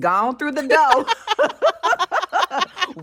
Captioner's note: laughter